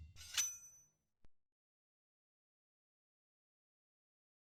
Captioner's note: knife slicing